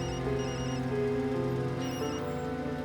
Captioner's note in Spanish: Suena el celular